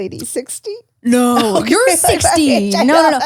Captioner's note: laughs